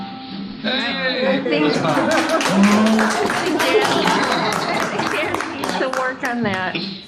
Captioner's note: applause